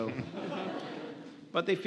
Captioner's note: audience laughs